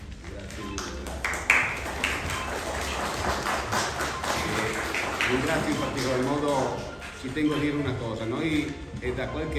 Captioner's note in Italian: Applauso